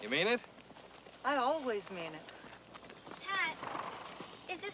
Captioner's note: pat